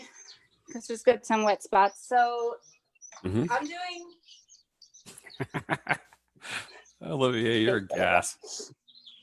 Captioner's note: laughs